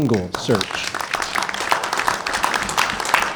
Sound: clapping

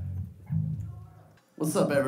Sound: background Chatter

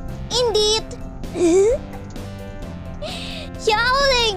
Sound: laughing

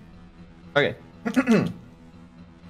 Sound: clears throat

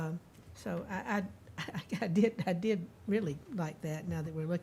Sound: chuckling

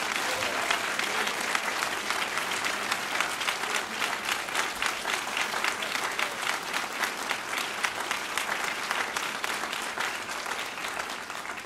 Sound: applause

